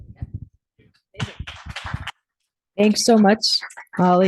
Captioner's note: audience applauding